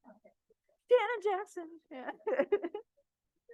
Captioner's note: laughs